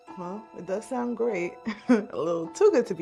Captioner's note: laughs